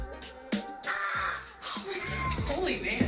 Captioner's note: student shrieks